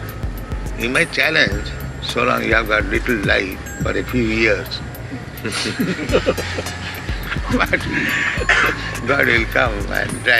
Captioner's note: laughter